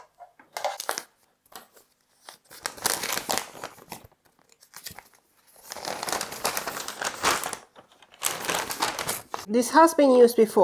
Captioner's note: paper rustle